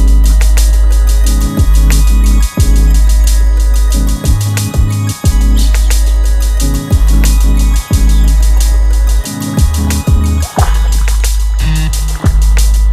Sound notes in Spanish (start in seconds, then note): 5.5 pájaros cantando; 10.4 sonido pez saltando